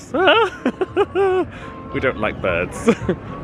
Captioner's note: chuckles